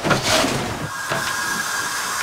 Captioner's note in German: Wasserrauschen